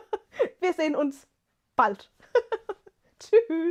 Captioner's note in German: gelächter